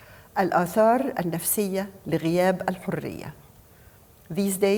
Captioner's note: speaking foreign language